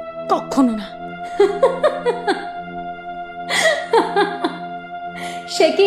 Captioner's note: laughs loudly